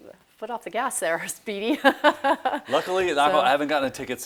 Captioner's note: laughs